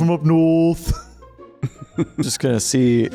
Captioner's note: laughter